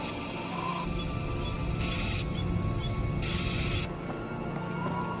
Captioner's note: mechanical whirring; machine beeping; lens focusing; boots padding